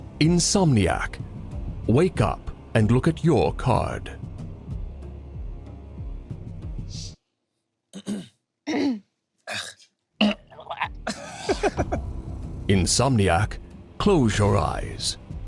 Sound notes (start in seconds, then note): 8.2 group coughing; 8.2 laughs